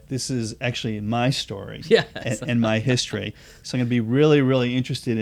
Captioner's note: laughter